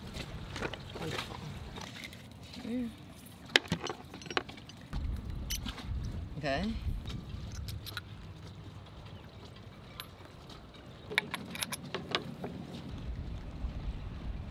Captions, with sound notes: Wonderful. Here. Okay. (Metal clanging softly)